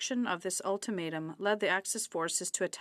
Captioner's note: speaking French